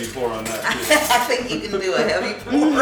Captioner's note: laughing